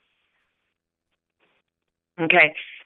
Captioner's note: silence